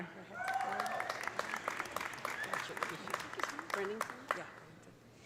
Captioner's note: audience cheering; audience applauding